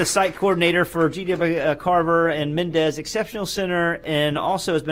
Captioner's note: applause